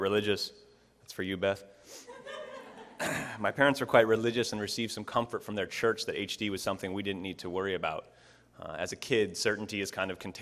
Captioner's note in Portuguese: Risos